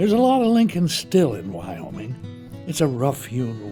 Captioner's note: voiceover